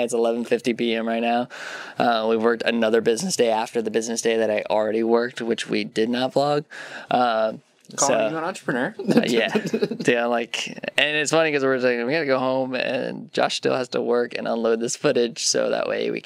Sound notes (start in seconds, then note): 9.0 laughs